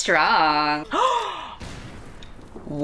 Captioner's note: gasps